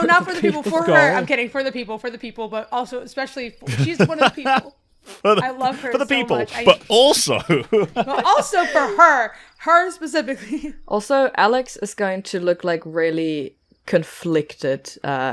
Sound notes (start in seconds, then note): 3.6 laughs